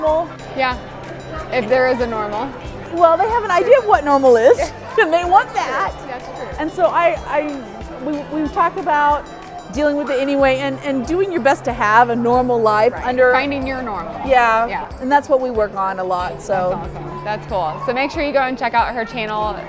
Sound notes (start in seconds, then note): 4.8 laughs